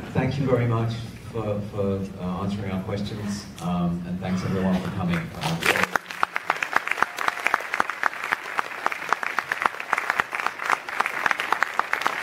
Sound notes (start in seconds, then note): 5.0 crowd clapping